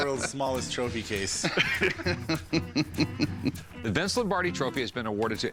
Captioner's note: laughs